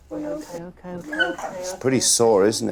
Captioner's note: Remy yelps